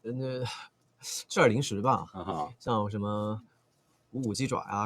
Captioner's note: laughs